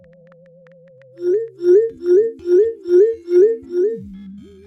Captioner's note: dinging sounds